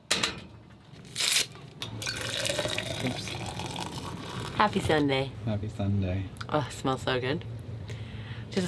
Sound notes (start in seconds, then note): 1.1 paper ripping; 2.0 water pouring